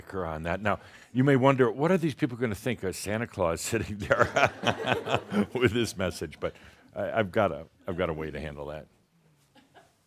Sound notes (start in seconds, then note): 4.0 laughter about Sart’s costume